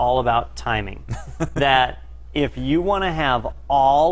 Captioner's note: laugh